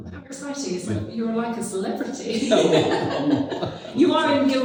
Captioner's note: laughs